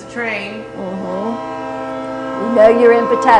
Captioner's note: train whistle